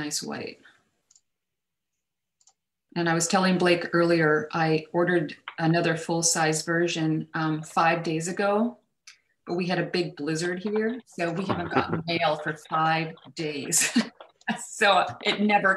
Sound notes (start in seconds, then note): 11.3 laughs